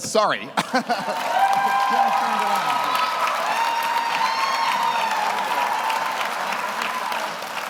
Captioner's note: audience applauds; audience cheers